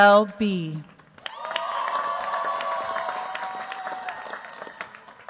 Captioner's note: cheers, applause